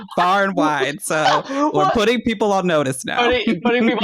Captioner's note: laughter